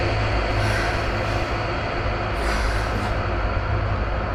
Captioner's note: sighs